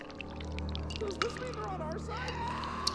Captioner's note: blood dripping